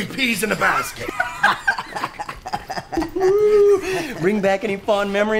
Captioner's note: gang laughing